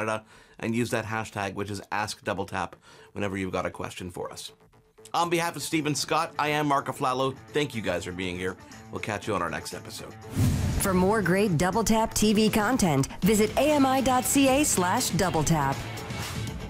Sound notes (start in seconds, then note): 10.3 screen whooshing